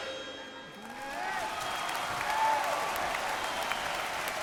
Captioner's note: cheers